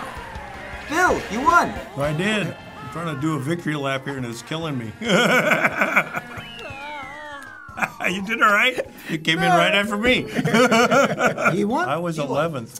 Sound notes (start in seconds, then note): 4.8 laughs; 4.8 chuckles; 10.2 both chuckle